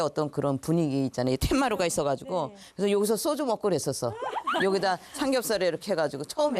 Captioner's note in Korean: ㅎㅎㅎㅎㅎㅎㅎ